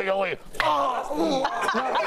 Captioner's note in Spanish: risas